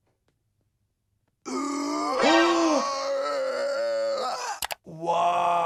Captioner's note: Chris inhaling